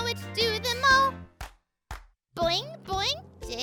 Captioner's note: Marvie clapping